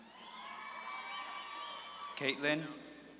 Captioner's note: audience claps and cheers